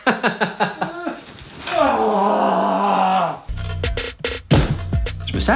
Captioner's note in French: rire